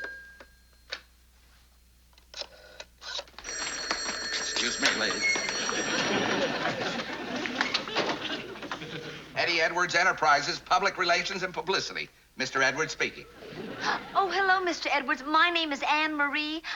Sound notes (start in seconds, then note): 3.0 rotary phone dialing; 3.3 phone rings